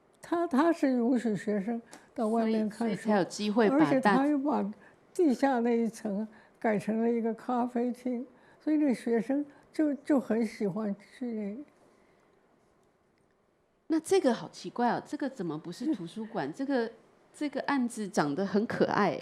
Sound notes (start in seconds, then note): 2.3 Mandarin; 4.7 Mandarin; 14.3 Mandarin